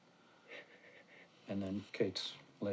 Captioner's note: soft crying